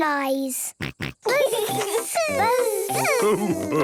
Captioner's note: both buzzing